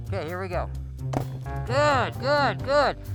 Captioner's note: bouncing music; wood impact